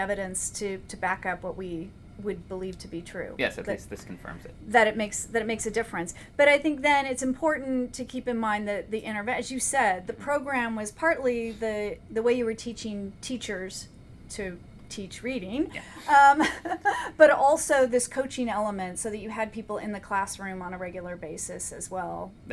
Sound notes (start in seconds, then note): 15.7 laughs